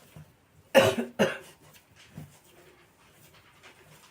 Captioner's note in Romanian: râsete